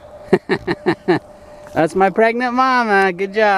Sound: laughs

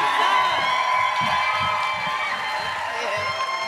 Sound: audience cheering

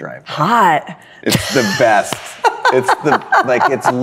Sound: laughs; claps hands

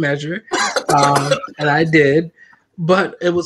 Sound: laughter

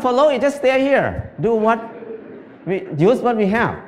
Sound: Smijeh

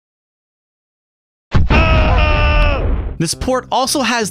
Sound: explosion, Duke screaming

